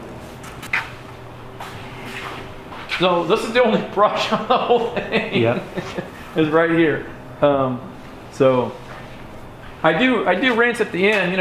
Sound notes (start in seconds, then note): 4.2 laughing